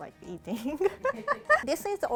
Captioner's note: laughing